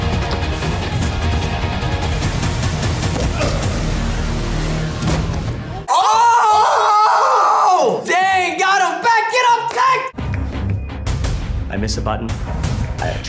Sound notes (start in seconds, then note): 0.0 intense music; 3.2 grunts; 10.1 intense music